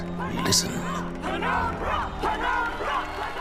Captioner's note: chanting; chanting continues